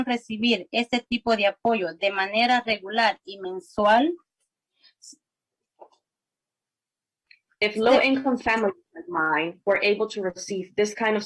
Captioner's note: spanish